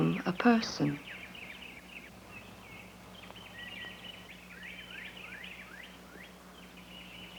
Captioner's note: birdsong